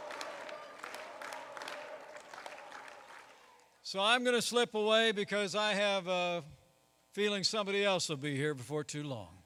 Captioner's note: applause; chanting "four more years"